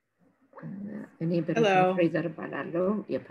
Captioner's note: speaking in foreign language